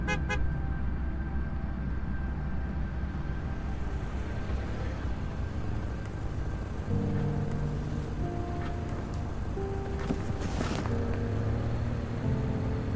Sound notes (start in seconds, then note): 0.0 car horn honks; 3.3 car whooshing; 7.1 soft melancholic music